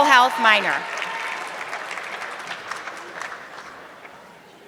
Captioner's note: audience clapping